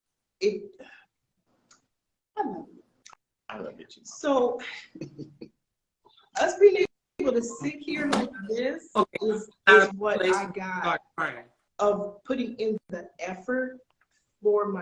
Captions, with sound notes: and I love you. - I love you too, mom. (chuckling) - So us being able to sit here like this is what I got of putting in the effort for my kid.